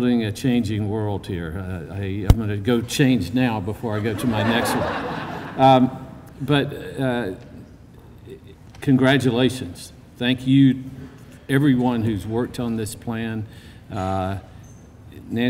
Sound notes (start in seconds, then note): 3.9 laughter